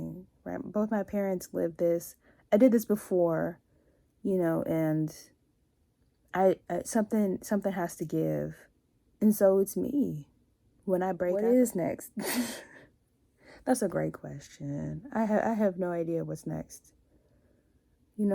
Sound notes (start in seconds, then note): 12.1 laughs